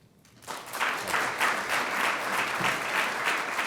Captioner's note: crowd applauds